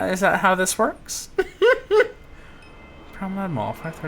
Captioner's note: giggles